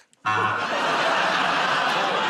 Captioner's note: buzzer